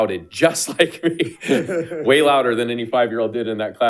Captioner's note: board Members laughing